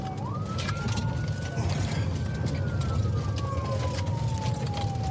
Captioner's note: siren wailing